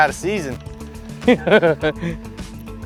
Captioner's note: laughing